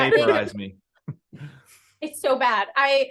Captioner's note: laughing